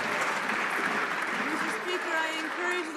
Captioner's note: some Applause